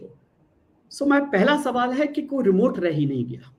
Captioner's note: non-english speech